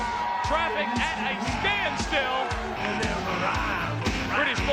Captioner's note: audience cheers